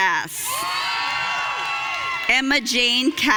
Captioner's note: audience cheering